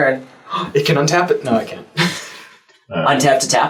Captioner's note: gasp